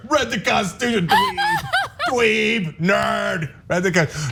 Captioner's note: laugh